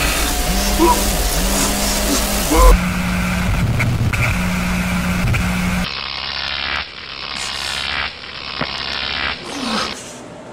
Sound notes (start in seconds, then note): 5.1 zapping